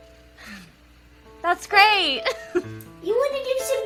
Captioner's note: laughs